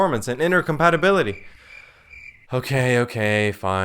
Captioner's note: crickets